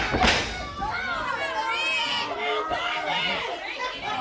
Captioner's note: crowd chatter